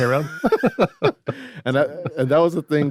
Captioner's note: everyone laughs